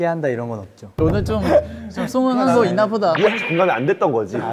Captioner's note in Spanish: Molesto